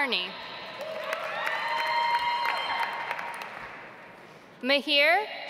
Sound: audience applauds

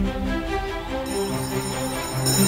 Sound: bell ringing

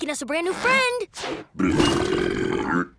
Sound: belching

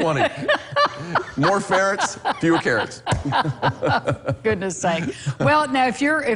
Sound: laughter

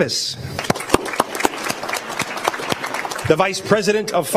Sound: applause

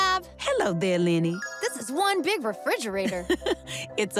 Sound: Ms. Tab chuckles

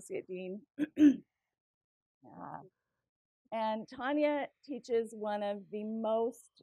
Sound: cough

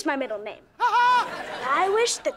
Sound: laughing

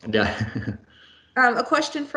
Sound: laughing

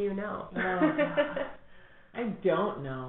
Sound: laughter

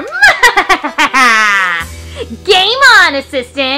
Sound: Romeo laughing sarcastically

